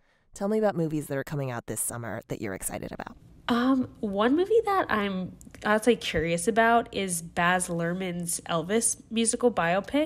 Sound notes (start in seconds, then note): none